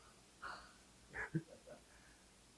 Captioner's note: heh